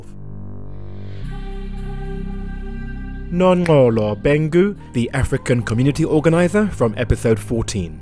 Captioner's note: voiceover